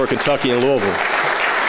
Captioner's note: applause